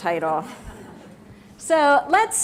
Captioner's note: laugh